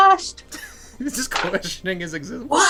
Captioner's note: laughter